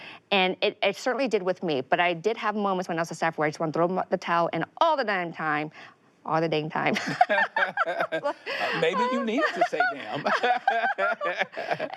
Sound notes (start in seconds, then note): 6.9 both laughing